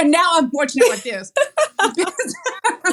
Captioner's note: laugh